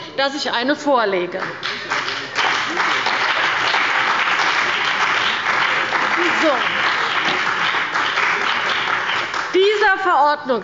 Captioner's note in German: Beifall bei der CDU und dem BÜNDNIS 90/DIE GRÜNEN